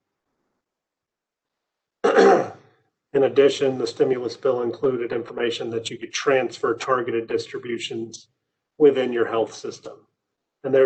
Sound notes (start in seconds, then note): 2.0 clears throat